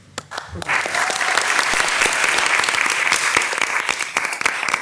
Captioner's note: crowd clapping